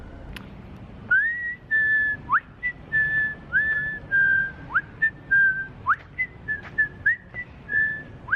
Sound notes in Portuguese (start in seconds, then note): 1.1 assobio